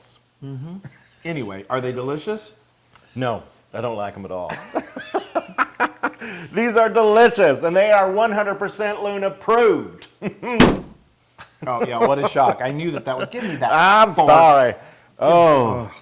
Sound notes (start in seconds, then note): 6.0 laugh